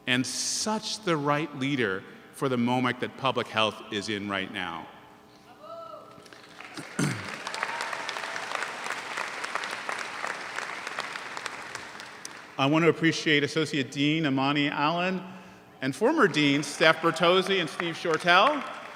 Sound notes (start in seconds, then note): 5.9 man hollers; 6.2 audience applauds